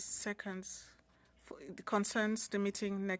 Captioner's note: speaking French